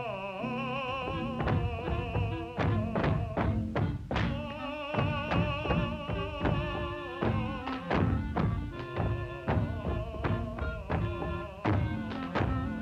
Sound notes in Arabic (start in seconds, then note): 0.0 غناء وموسيقى الجيتار; 1.4 أقدام تدوس من أعلى; 1.4 تعزف الكلارينيت